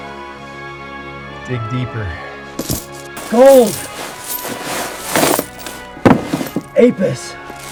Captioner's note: coals scatter